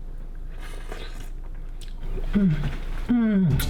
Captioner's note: slurps